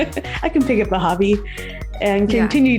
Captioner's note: laughs